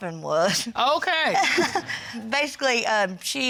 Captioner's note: chuckles